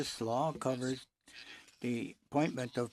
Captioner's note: speaking French